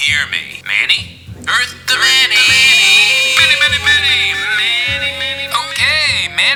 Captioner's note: echoing and fading away